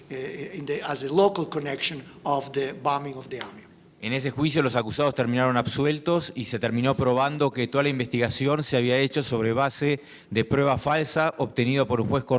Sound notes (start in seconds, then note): 4.2 speaking in foreign language